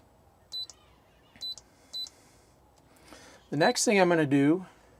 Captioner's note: beeping